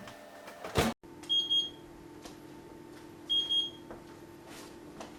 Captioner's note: oven timer beeps